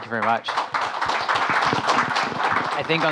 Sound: audience applauding

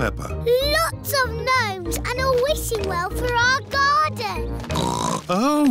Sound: oinks

